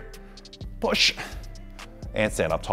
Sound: breathing

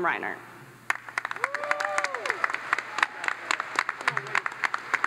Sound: audience applauds

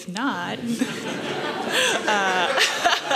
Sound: laughter

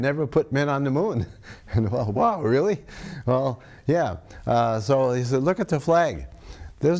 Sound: laughs

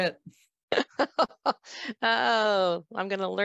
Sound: laughs

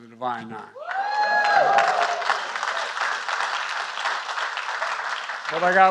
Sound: applause

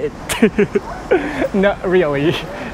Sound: chuckles

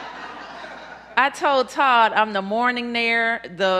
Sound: laughter

